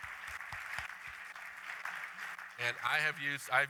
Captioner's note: applause